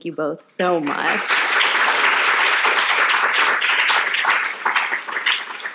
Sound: audience applauding

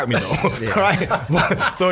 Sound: scattered laughs

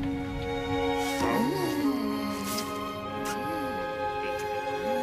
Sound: soft music; kissing

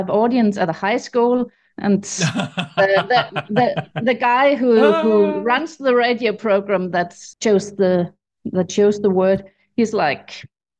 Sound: laughs

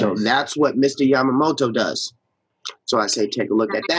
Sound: laughs

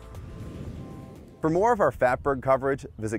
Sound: whooshing

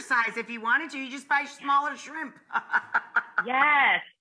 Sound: laughs

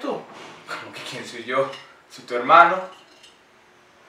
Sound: mocking tone

